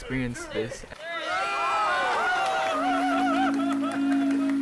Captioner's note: group cheering